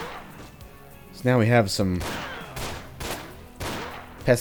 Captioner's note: bang bang